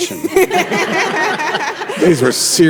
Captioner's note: group laughs